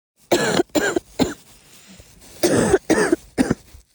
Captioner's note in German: hustet